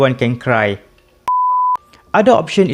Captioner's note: beep